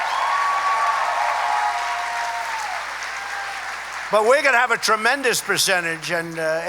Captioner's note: applause